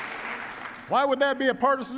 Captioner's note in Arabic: تصفيق